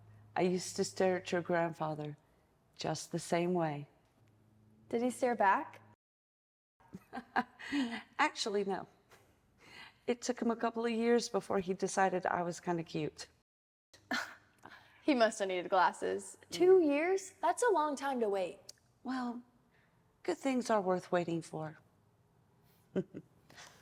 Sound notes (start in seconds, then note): 6.3 laughs